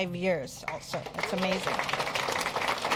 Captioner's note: applause